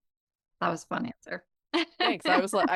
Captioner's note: laughs